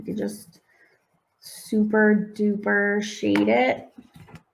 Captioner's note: none